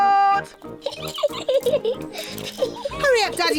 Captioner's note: giggling